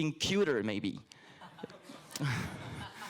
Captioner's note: laughter